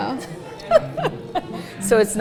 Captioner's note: laughs